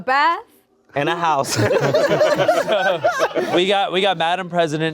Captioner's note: everyone laughing